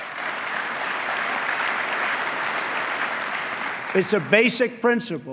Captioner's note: applause